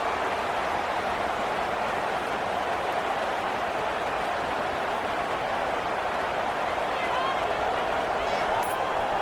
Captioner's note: crowd Noises